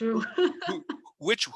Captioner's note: laughs